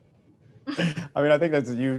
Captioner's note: chuckles